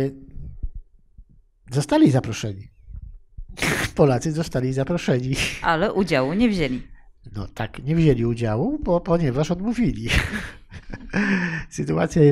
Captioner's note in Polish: śmiech